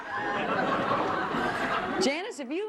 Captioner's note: laughter